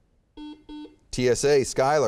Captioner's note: beeping